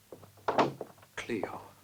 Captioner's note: door closes